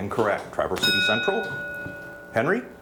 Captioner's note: bell dings